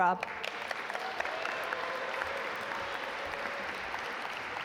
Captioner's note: audience applaud